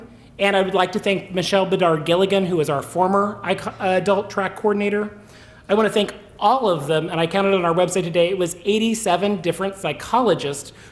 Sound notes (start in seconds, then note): none